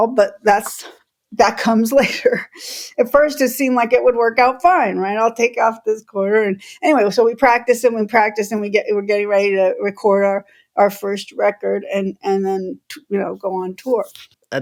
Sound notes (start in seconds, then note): 2.0 laughter